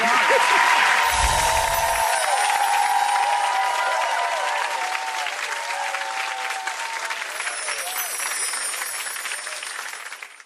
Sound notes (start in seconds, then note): 0.0 audience cheering; 7.3 chiming